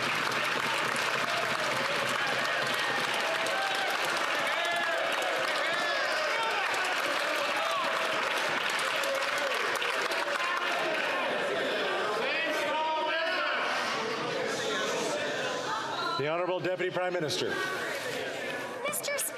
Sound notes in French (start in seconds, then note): 10.5 applaudissements